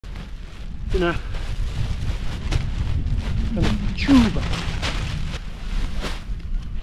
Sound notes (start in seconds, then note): 0.0 paraglider crinkling; 0.0 wind blows